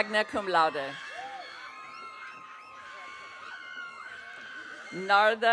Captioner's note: audience cheering